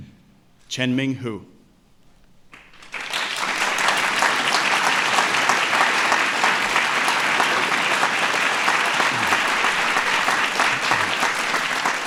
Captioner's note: applause